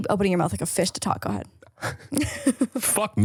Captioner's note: laughs